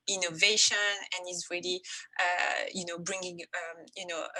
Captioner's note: none